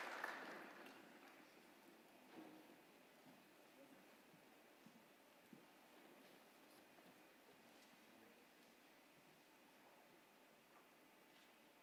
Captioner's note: applause